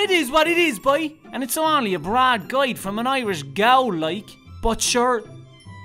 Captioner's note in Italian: Accento di Limerick